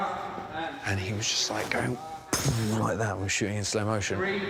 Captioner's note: blows